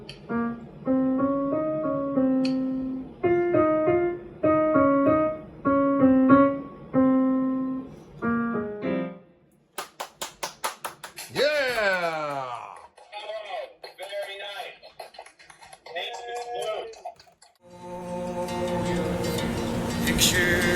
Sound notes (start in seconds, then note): 0.0 piano music continues; 9.7 claps; 18.6 upbeat music